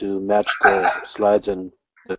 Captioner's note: laugh